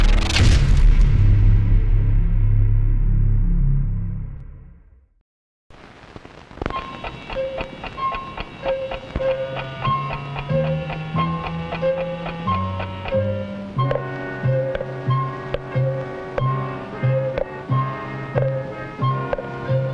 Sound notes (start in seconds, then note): 6.0 suspenseful music; 6.7 clock ticking; 13.5 faucet dripping